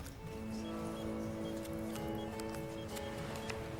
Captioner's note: dialing